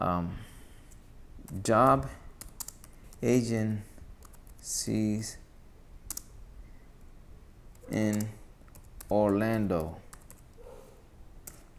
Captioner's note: typing